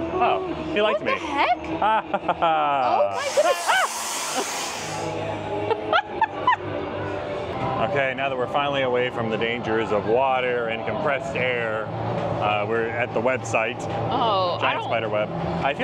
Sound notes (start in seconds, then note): 3.7 gasps